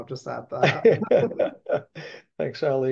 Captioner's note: laughing